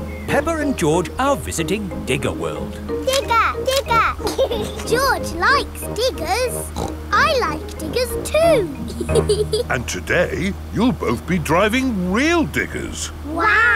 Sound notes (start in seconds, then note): 3.1 laughs; 6.6 snorts; 7.2 laughs